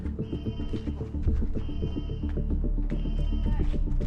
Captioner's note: alarm blaring